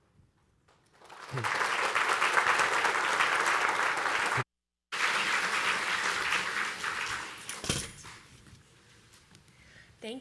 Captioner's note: applause